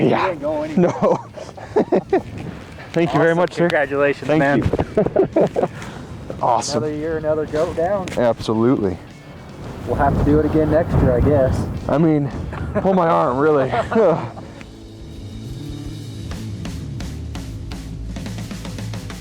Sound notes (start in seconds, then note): 0.0 laughing; 13.6 both laughing; 15.3 drums beating